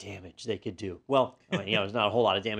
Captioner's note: laugh